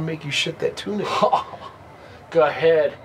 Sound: Jesus scoffs

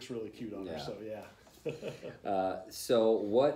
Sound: laughter

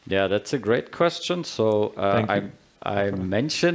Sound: chuckles

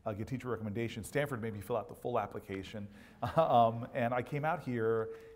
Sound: laugh

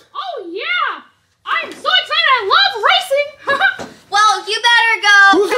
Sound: laughs

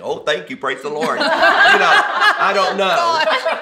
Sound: all laugh

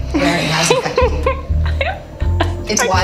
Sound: laughs

